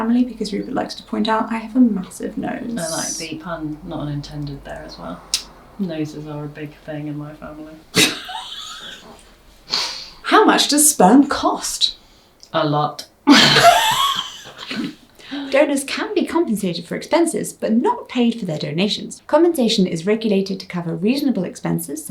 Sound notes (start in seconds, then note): 7.9 laughs; 13.2 both laugh